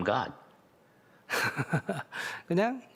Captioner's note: laughter